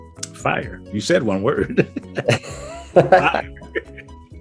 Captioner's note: laughs